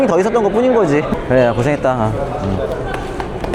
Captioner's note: heart racing